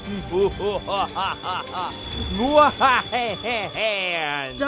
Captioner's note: Dartz laughing